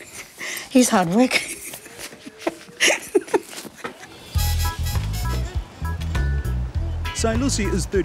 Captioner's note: laughter